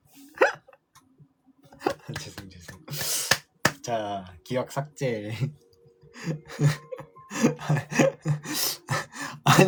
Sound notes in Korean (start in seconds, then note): 7.3 웃음